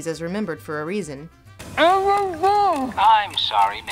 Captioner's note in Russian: пытается с набитым сухомяткой ртом сказать "Аарон Берр"